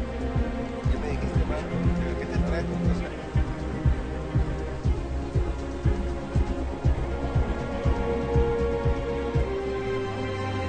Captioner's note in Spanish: Conversación indistinta